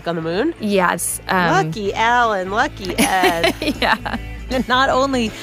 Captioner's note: laughs